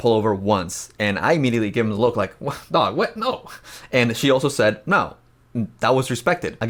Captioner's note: chuckles